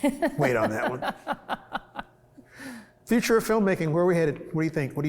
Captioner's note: laughs